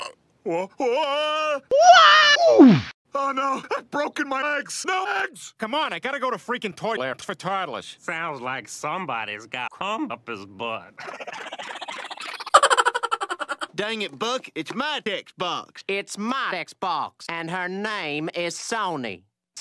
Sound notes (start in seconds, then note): 10.9 Cleveland and gang laughs like it's the funniest joke ever; 12.5 chipmunk laugh sound effect